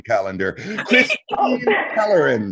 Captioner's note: group giggling